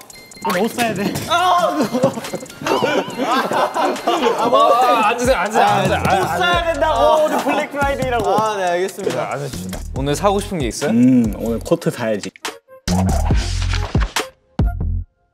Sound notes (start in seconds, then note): 2.5 flop